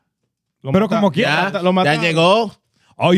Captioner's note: speaking In Foreign Language